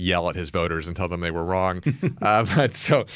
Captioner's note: laughs